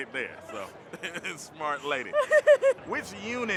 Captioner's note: laughs